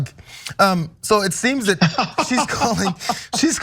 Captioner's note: laugh